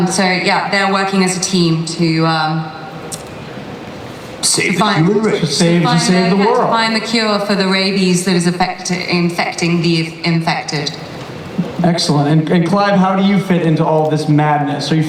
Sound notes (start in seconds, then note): 4.1 imitating movie voiceover guy